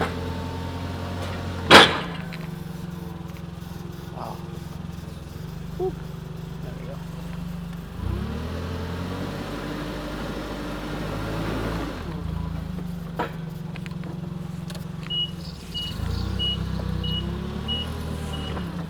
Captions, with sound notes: Woo, there we go. (forklift engine revving)